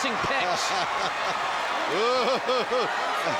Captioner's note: laughing